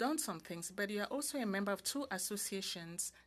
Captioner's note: speaking French